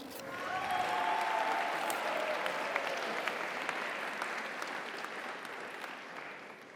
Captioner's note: audience cheers; audience applauds